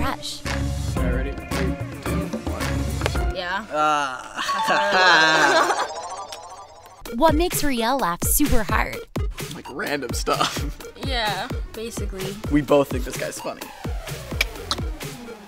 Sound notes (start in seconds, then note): 3.8 ding ding